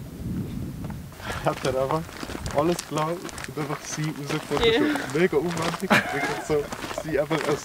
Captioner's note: talking in Swiss German about a meme